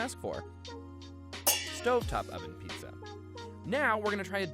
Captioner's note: metal clangs